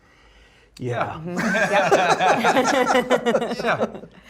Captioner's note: laughs